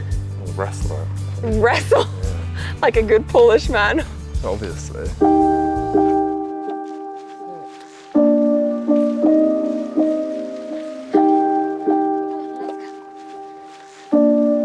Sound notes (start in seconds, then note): 3.2 laughs; 5.4 mellow music